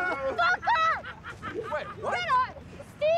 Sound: men screaming

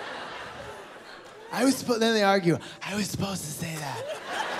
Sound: laughter

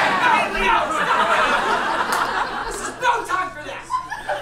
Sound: audience laughs

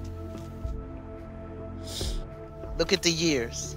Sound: sniffles

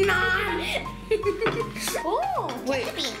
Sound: giggles

